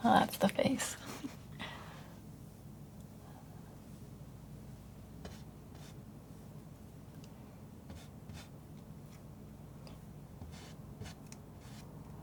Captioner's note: silence